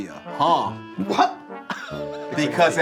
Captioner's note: laughs